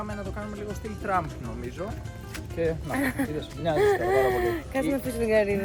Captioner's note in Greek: γέλια